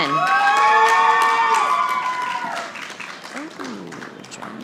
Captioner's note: audience applauding